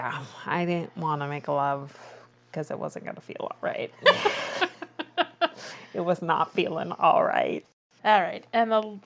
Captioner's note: laughs